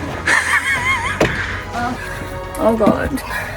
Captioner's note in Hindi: हंसी